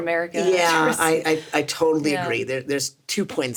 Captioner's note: Sarah chuckles